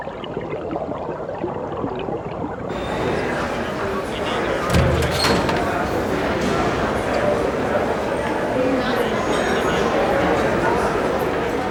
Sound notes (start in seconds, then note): 4.3 metal screeches, roar of voices